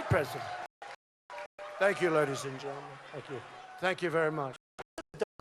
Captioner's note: cheers and applause